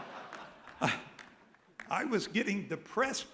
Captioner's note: laughter